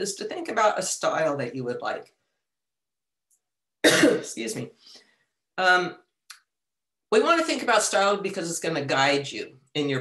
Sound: cough

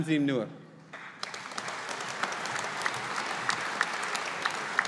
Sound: audience applauding

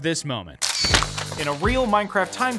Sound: shutter sound

